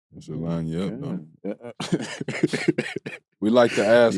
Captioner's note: both laughing